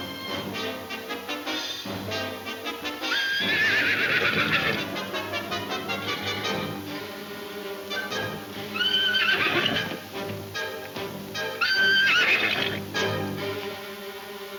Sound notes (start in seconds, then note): 0.0 dramatic music continues; 3.0 horse whinnying; 8.6 horse whinnying